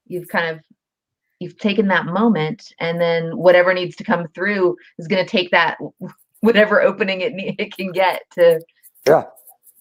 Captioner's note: snaps